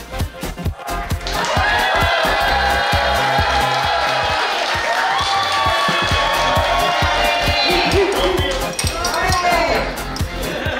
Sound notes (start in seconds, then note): 0.7 cheering & Clapping